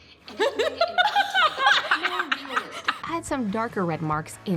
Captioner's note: laughter